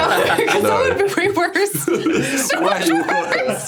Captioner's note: laughs